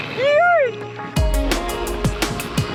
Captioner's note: excited exclamations; lively adventurous music